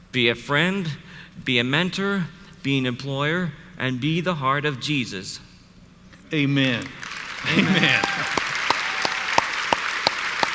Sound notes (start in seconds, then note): 6.6 audience applauds; 6.6 claps